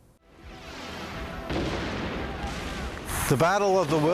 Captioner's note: cannons exploding